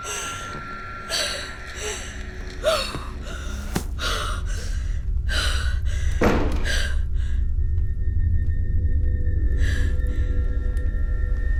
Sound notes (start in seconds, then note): 6.2 banging; 9.3 ominous music